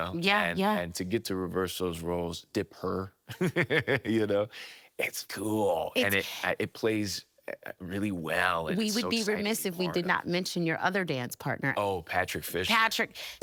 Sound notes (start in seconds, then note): 3.3 laughing